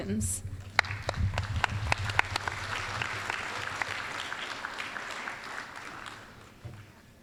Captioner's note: applause